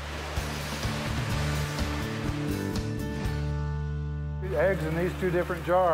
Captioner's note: water rushing